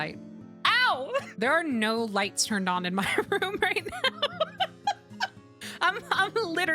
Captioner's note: laughter